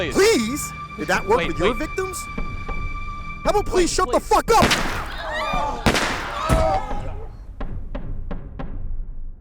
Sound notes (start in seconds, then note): 5.8 gun firing; 6.0 gasping